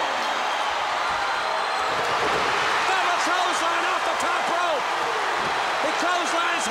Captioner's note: applause